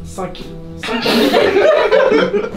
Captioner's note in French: rires